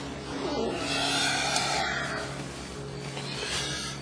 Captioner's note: sighing